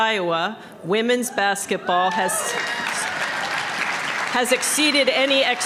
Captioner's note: applause